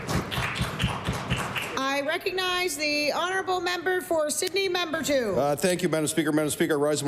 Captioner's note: applause